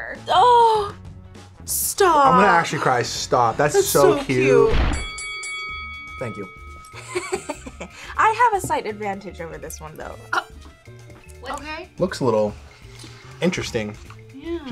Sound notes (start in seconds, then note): 4.8 bell dings; 7.0 giggles